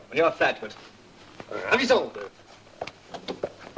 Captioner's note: French spoken audio